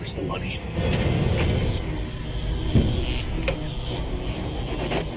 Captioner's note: electricity buzzing